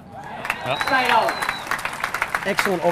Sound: audience applauding and cheering

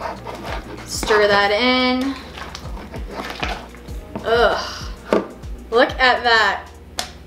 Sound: grunts disgusted

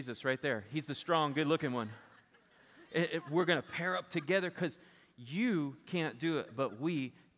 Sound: laughter

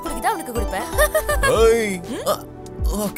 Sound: laughs

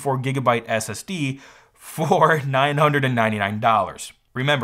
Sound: chuckles

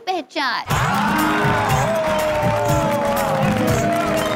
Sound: cheering

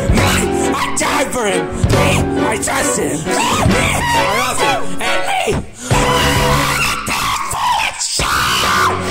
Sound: pained scream

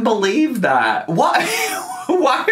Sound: laughing

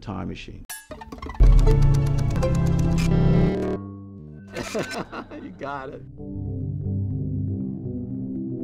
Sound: laughs

